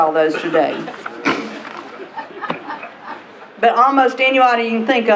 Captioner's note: laughter